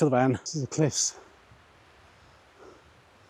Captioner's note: breathing